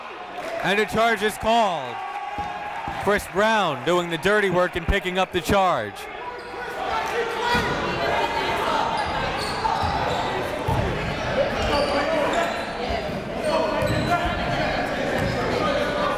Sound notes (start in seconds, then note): 7.1 coaches yelling; 7.1 crowd talking